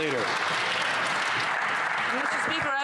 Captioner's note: some Applause